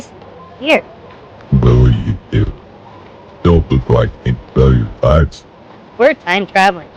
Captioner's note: in a thick accent